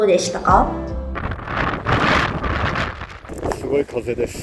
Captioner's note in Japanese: 強風の音